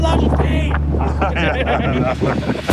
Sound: laughing

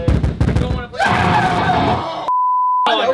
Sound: screaming; test tone

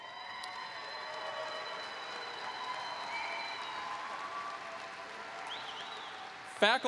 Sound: applause

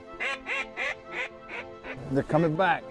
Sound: duck calls

